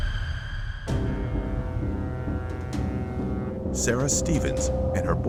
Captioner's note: dramatic music; horn blaring